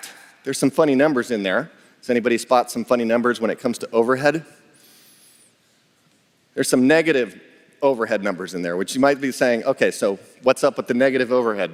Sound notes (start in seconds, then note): none